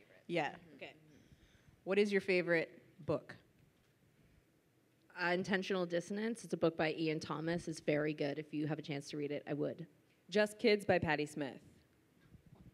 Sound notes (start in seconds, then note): none